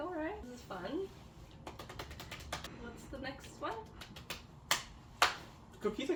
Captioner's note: clapping sounds